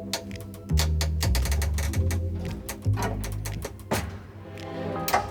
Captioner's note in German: knarrt und knackt